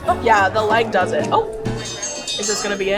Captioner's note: dinner bell rings